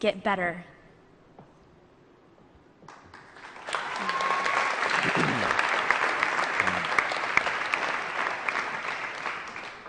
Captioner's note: applause